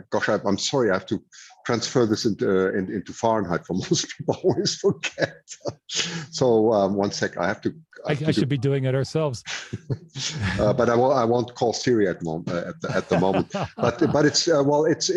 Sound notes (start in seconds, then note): 4.8 laughs; 12.8 laughs